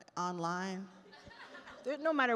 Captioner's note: attendees laugh